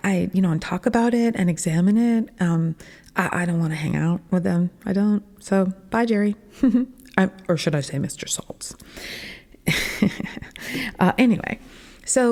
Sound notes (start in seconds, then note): 6.5 giggle; 9.7 laughing